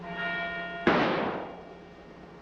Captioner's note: gunshot